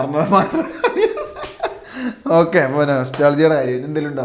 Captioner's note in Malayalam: പൊട്ടിച്ചിരി